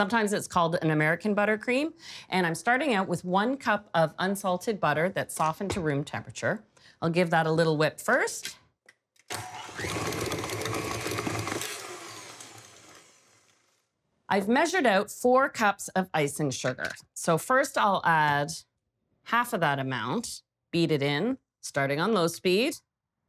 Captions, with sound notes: Sometimes it's called an American buttercream, and I'm starting out with one cup of unsalted butter that softened to room temperature. I'll give that a little whip first. (loud whirring) I've measured out four cups of icing sugar. So first I'll add half of that amount, beat it in starting on those speed.